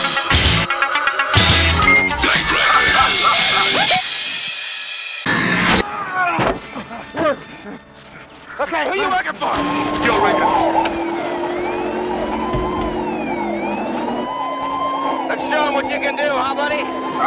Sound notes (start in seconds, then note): 5.2 loud static; 11.1 police sirens